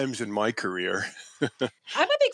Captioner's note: laughs